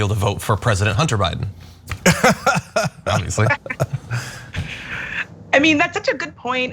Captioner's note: laugh